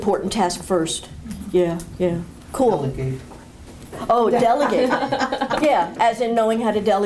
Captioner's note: laughter